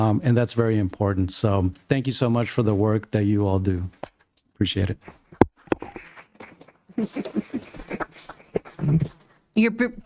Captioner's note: laughter